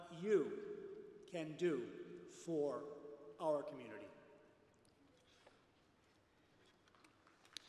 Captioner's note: applause